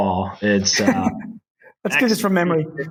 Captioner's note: laughing